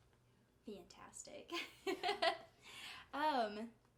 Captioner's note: giggling